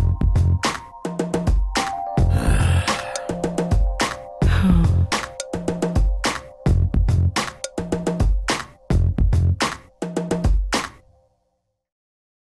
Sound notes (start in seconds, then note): 2.3 sigh